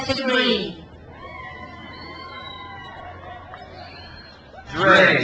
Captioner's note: crowd cheers